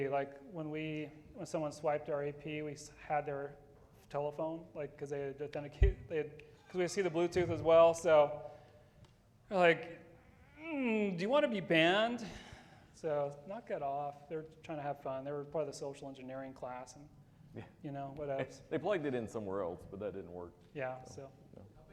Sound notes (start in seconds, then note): 9.4 straining